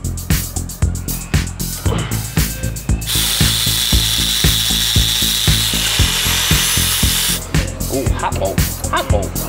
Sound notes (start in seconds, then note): 3.0 sparks buzzing